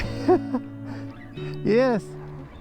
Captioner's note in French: Rires